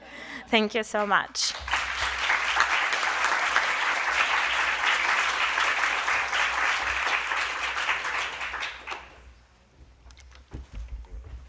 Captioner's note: applause